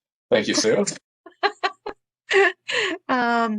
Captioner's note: laughs